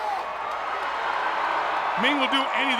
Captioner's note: crowd cheers